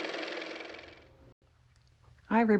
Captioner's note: car motor